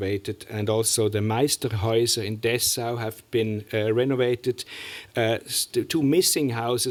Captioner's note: german